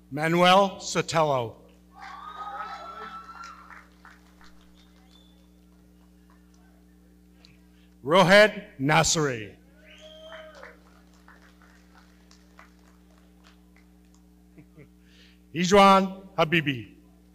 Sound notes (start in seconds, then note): 1.9 audience cheering; 9.8 audience cheering and clapping